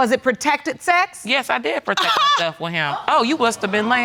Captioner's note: scoffs